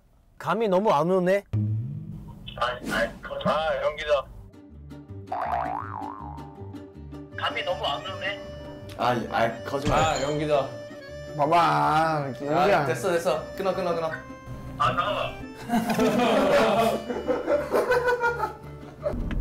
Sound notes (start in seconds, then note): 15.6 haha